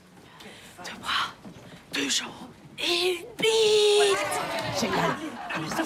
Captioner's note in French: en chuchotant; Acclamations de joie discrètes